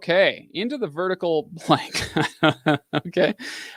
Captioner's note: laughs